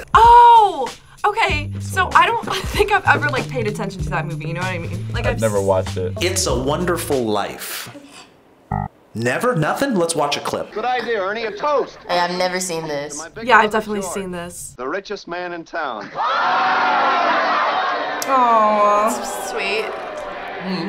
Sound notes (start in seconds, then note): 16.0 crowd cheers